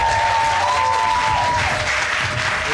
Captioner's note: audience cheering